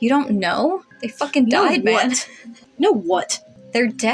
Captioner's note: quiet Laugh